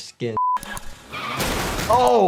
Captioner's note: cars crashing